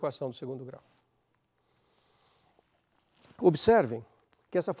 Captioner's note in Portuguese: pausa sonora